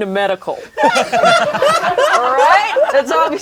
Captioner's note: laughs